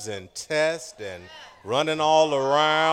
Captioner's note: cheering